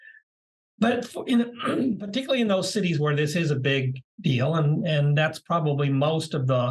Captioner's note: cough